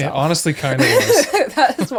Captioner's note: both Laughing